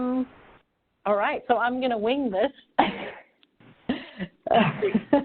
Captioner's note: laughing